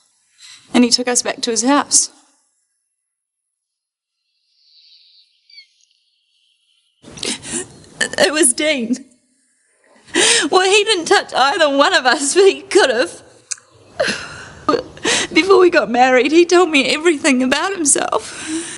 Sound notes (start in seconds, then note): 13.9 Trina sobbing